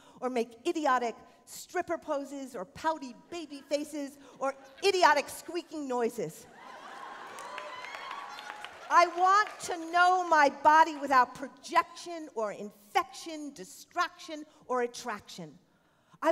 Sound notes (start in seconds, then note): 6.5 cheering